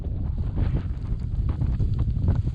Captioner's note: heavy wind and rain